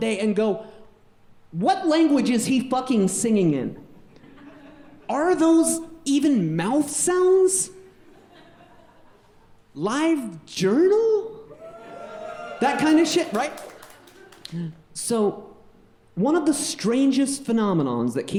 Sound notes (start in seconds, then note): 4.4 audience laughing; 11.5 audience cheering and clapping